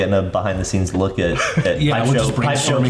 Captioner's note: chuckles